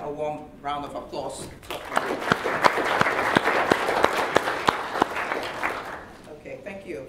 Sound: applause

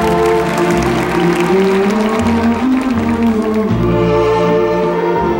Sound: audience applauding

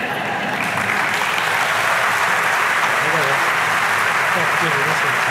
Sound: audience clapping; audience laughing

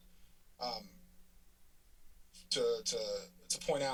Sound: silence

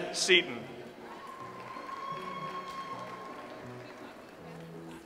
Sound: audience applauds

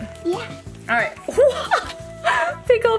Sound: laughs

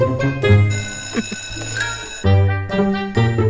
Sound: school bell continues

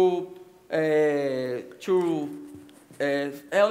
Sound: speaking Portuguese

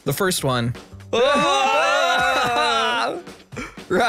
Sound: cheers

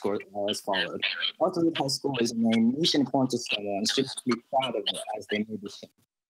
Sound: murmurs

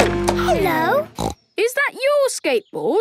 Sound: snorts

